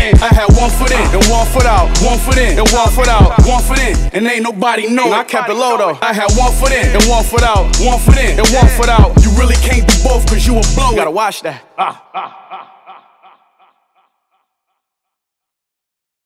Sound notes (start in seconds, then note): 11.5 laughing